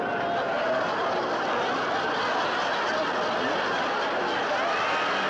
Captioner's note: audience laughing